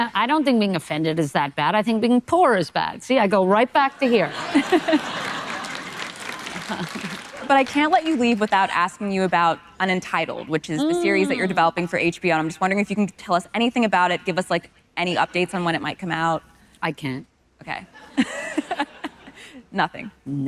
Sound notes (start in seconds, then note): 4.0 audience laughing; 18.1 audience laughing